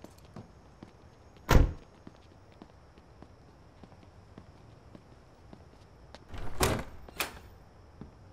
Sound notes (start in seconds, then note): 1.5 truck door closes